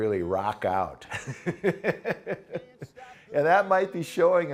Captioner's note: laughs